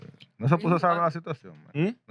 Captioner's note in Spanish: Hablando en idioma extranjero